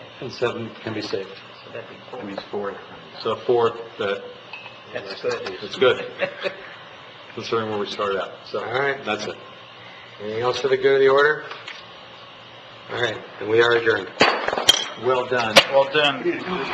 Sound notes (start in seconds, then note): 14.1 gavel bangs